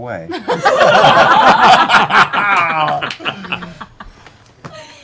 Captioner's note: laughter